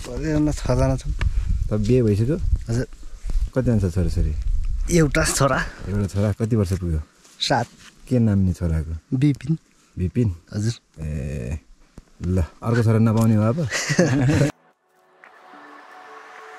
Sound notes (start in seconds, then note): 13.6 laughter